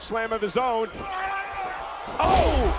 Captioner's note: wrestler yelling